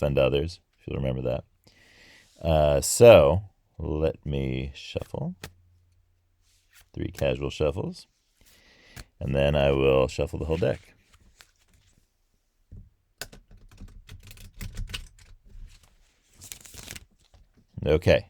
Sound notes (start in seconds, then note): 9.2 shuffling noises